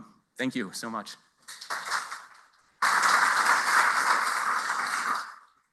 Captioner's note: applause